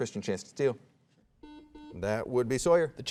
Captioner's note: soft beeping